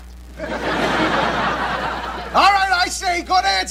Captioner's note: audience laughing